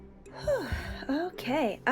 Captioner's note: big tired sigh!